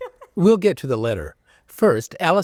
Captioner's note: laughter